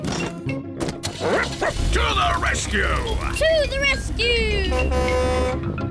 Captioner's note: barks; horn blares